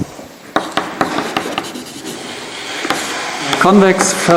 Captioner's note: keyboard clacking